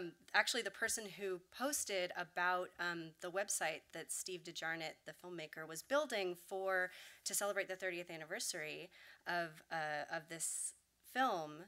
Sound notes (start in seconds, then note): none